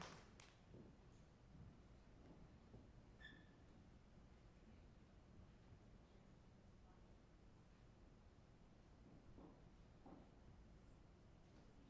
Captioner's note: applause